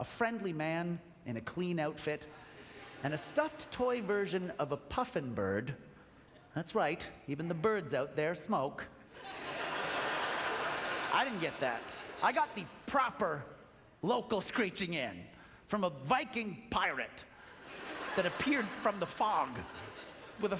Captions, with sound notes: a friendly man in a clean outfit, and a stuffed toy version of a puffin bird. That's right. Even the birds out there smoke. (Audience laughter) I didn't get that. I got the proper, local screeching in from a Viking pirate that appeared from the fog